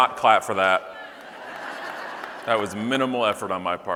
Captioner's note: audience laughing